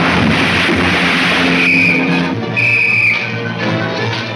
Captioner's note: whistle blowing